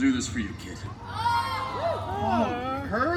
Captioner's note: guests cheering